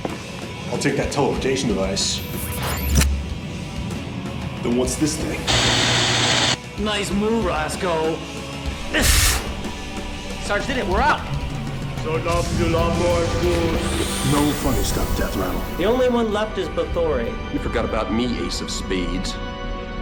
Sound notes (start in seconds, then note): 5.4 static hissing; 9.3 gasps; 12.3 speaking foreign language